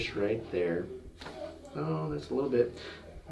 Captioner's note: joint cracking